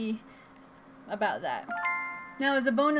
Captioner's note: sparkle sound